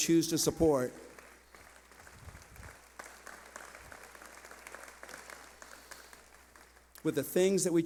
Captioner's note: clapping